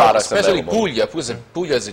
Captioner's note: Italian